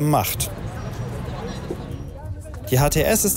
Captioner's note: street noise